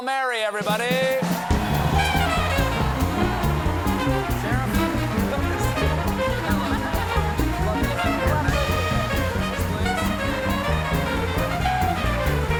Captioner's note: applause